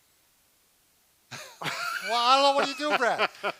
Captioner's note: laughs